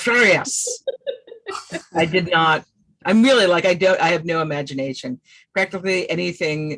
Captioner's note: laughs